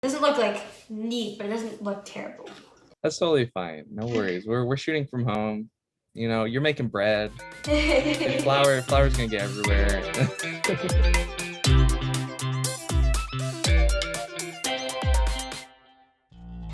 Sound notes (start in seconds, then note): 7.7 giggling; 11.4 upbeat music